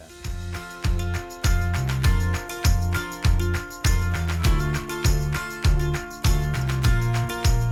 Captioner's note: applause